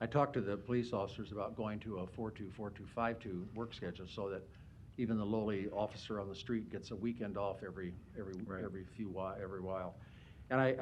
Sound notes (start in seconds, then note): none